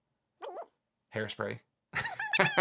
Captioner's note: cartoon voice; laughs